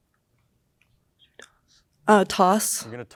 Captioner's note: team whispers